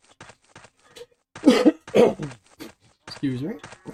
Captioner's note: coughing